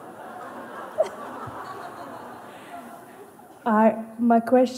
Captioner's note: Lachen